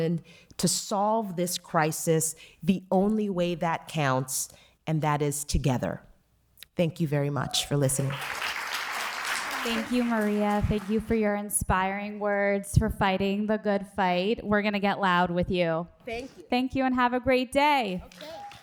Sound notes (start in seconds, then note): 10.9 cheers and applause